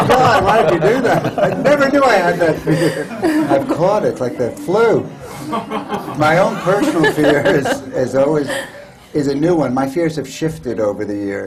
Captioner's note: laughter